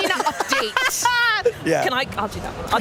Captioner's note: laughing